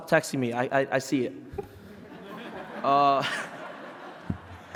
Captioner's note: laughing